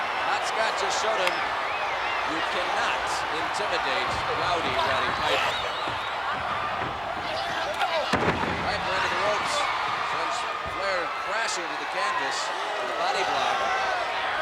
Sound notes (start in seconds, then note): 6.9 body thudding; 14.2 crowd clamoring